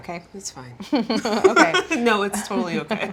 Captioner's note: both laughing